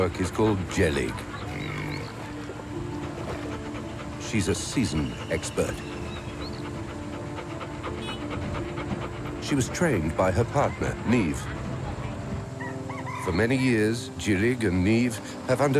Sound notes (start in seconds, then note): 6.8 panting